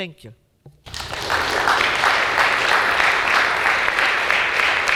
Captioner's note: audience clapping